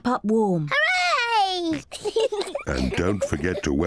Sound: both giggle

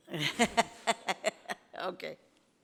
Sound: speaking off microphone; laughs

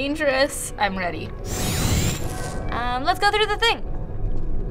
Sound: door whirs

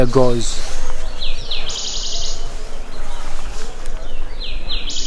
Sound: birds chirp

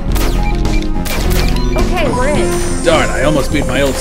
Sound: the keypad chimes as the door unlocks

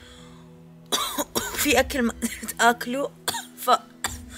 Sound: coughing

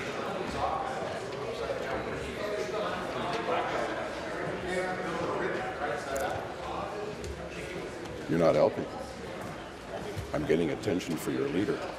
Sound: conversation din

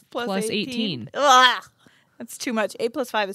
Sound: groans

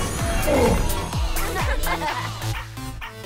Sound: laughter

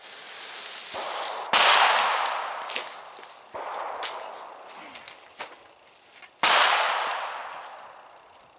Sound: gunshots on range #2

